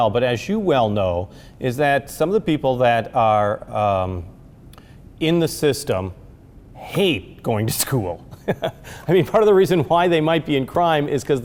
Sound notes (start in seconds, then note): 8.3 chuckles